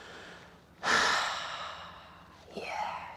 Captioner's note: sighs